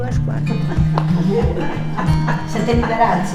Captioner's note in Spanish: risas